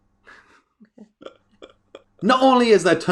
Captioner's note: both laughing